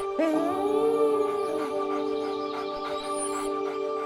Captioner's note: gentle music continues; dog whining